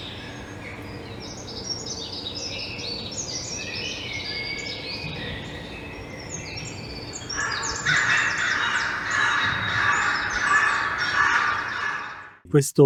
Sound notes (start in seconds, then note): 3.8 birdsong